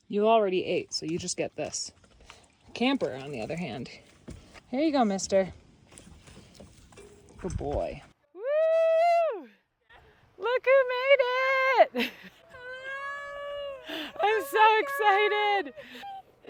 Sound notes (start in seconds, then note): 8.7 shouts; 12.4 shouting